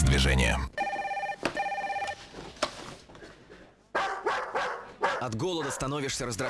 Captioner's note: phone ringing; dog barking